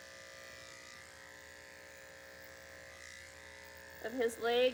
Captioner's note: clippers buzzing